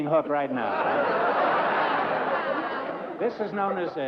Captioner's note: laughter